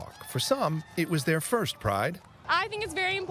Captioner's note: cheering and applause